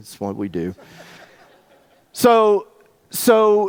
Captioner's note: audience laughs